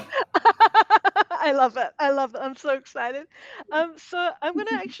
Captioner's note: laughing